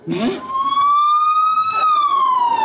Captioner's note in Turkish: Ambulans sireni